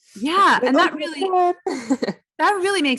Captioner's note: faintly speaking; laughs